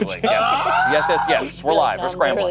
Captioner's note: screaming